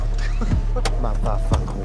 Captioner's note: laughs